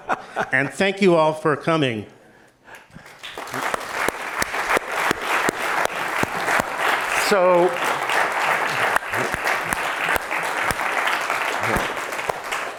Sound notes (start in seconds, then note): 0.0 laughter; 2.3 applause